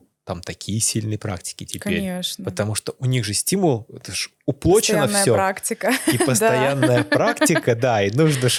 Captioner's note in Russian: смех